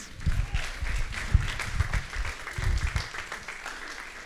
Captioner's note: applause